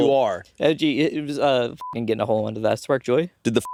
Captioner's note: beeping